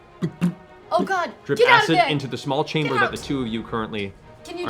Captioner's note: dripping noises